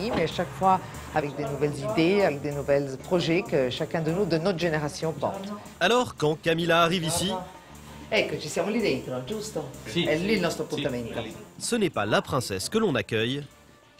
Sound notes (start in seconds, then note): 8.4 speaks in Italian